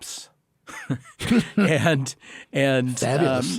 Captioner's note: both laughing